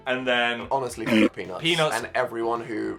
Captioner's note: tiger roaring